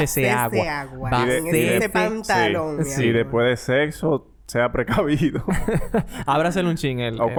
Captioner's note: laughs